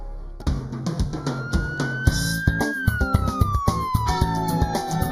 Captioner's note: a siren wails